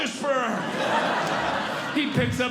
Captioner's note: audience Laughing